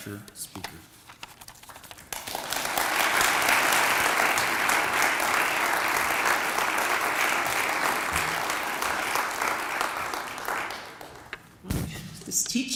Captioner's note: applause